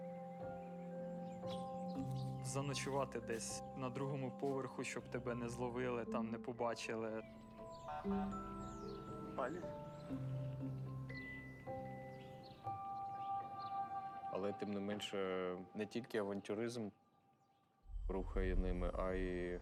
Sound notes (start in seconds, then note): 7.1 horn beeps